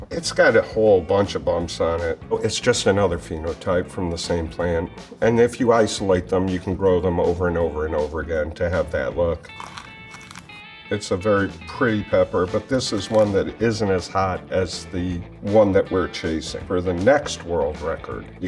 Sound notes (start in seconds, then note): 9.4 pepper crunches